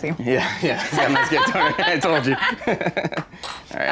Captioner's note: chuckles